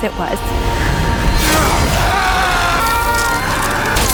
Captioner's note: grunting, shouting